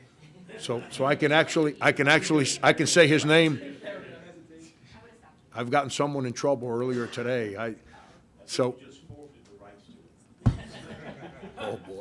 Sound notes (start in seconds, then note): 0.4 reporters chatting; 7.9 reporters chatting; 7.9 reporters laughing